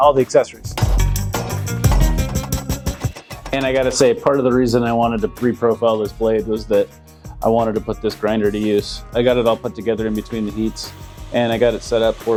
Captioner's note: sound of hammering and metal being profiled on the grinder